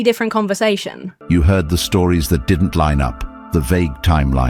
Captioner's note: AI Voice